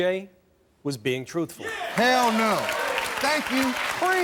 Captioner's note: audience applauding